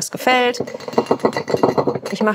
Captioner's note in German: Klappern